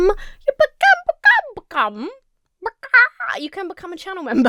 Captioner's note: clucks like a chicken; laughs